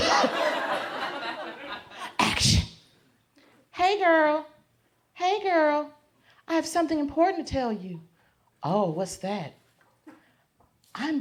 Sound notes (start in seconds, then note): 0.0 crowd laughs; 4.1 high-pitched voice